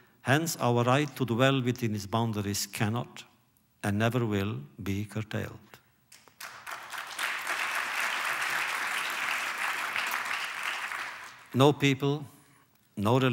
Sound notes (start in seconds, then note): 9.5 applause